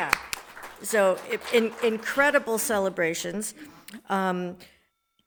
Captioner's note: everybody applauds